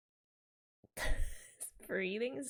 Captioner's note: laughs